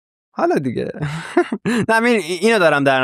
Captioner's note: laughs